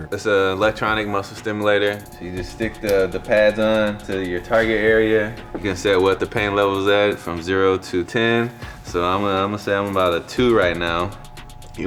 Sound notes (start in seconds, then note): 1.8 connector clicks